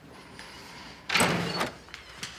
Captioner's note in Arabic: يفتح الباب